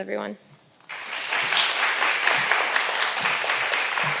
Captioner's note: all applauding